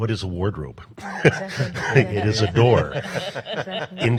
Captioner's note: panel laughs